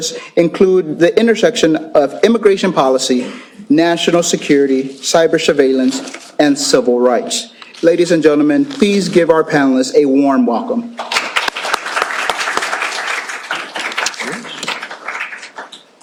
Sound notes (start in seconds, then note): 10.9 applause